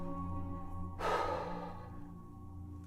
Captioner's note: exhales